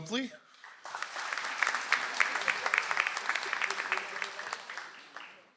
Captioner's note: audience applauds